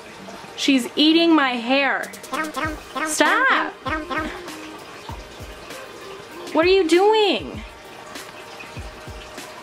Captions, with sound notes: She's eating my HAIR *nom* *nom* Stahp! *nom* What are you doing??